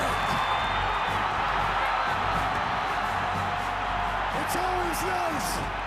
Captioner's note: crowd chatter